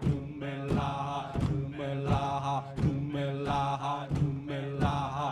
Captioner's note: dancers stomping